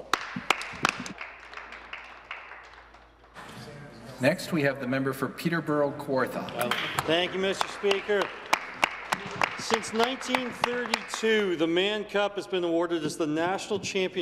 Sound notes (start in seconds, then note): 3.2 some Applause